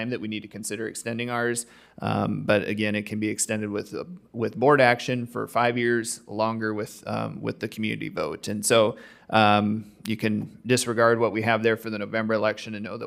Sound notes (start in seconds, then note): none